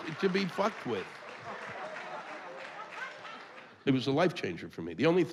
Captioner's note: applause